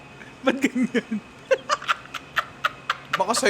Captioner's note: laughs